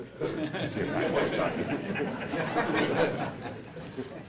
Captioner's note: laughter